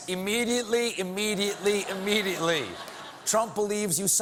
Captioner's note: laughter; applause